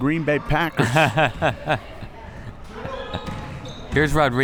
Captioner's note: laughs